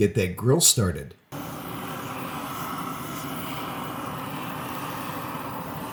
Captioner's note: torch whirring